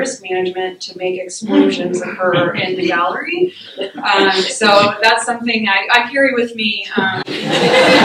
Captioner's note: laughter